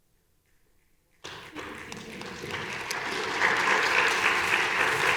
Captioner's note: audience applauding